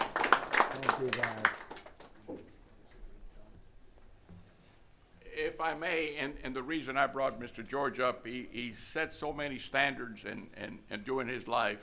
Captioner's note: applause